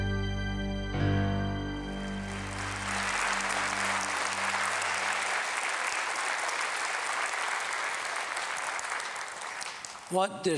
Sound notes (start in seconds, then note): 1.9 applause